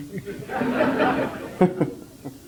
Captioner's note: general laughter